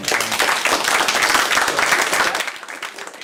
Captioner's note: applause